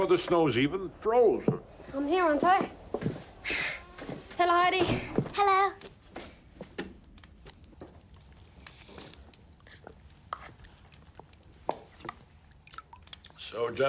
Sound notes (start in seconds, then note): 8.8 slurping